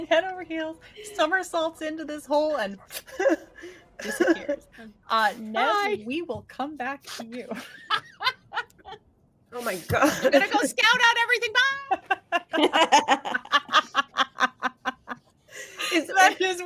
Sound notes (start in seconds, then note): 7.9 laughing; 11.5 laughing